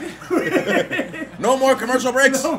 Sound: laugh

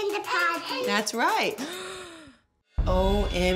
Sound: gasps

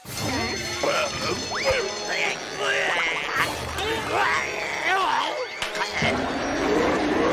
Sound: retching; growling

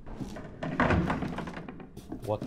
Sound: rattling

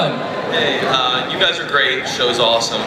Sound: voiceover

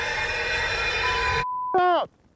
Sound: beep

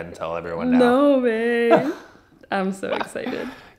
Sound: laughs

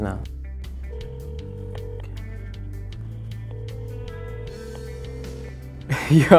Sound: dial tone rings

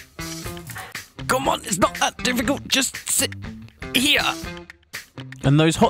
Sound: struggling

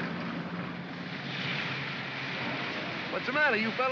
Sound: vehicles rumble; water splashes

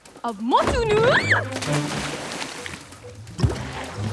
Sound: screaming

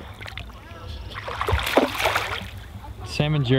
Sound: water splashes

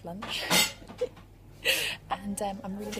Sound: laughs

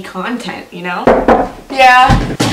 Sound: knock on the door

